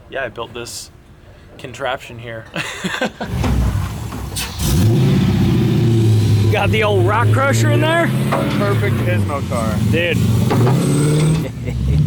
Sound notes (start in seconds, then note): 2.5 laughing; 4.3 loud engine revving